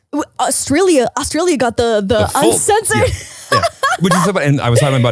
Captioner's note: laughing